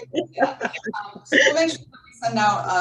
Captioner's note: laughs